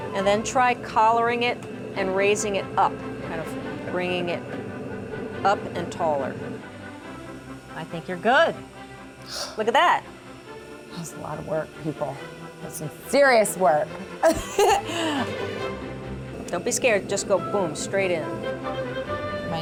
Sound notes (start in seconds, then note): 14.2 giggling